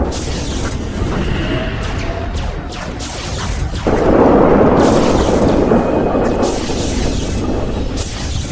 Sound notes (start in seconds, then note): 0.5 spacecraft whooshing; 1.4 explosions booming; 1.6 cannons blasting